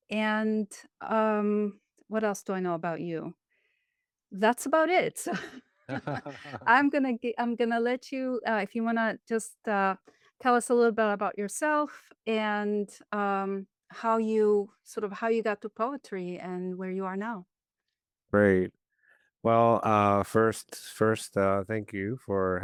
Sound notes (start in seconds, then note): 5.9 laughing